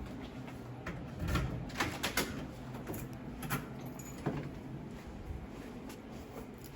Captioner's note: sound of key in lock, door opening